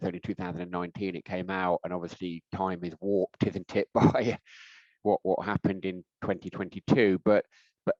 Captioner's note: laughing